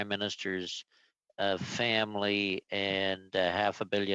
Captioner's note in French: voix de l'interprète